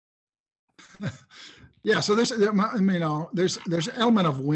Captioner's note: laughs